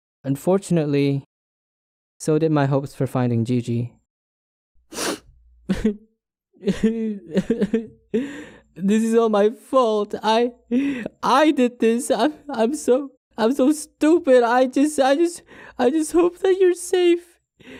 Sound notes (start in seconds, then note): 6.6 sobbing